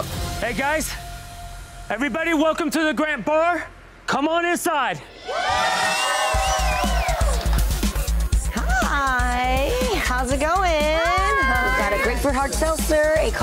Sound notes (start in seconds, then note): 5.2 patrons cheering; 6.2 upbeat music